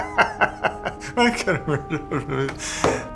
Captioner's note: laughs; mocks